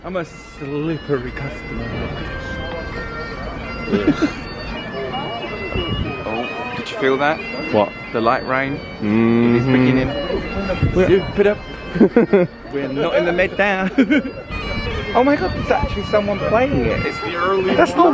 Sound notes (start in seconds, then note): 5.0 bagpipes wailing; 11.9 laughs